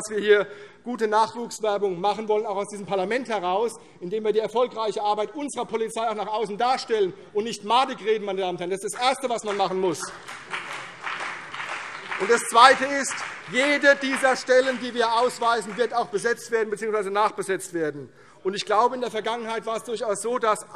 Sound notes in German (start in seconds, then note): 8.9 Beifall CDU und vereinzelt BÜNDNIS 90/DIE GRÜNEN